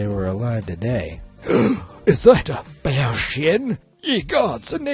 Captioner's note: gasps